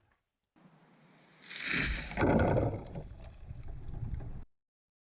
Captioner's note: tree whooshing